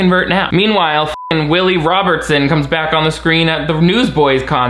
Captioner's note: beep